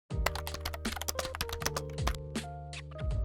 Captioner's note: gentle typing; light music